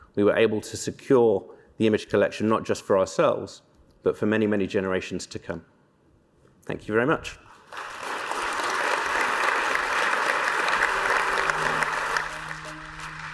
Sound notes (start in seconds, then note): 7.6 applause